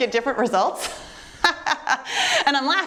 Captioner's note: chuckles